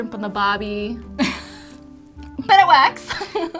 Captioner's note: laughs